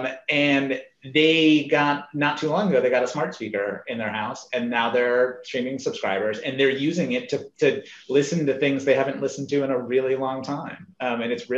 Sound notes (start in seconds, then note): none